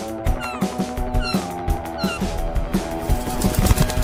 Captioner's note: gulls squawking; wings flapping